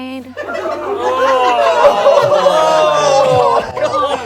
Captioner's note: group groans